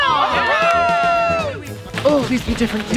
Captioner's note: campers cheering